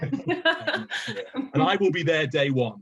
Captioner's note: laughing